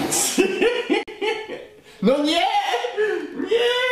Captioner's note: laughs